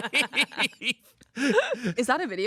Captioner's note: laugh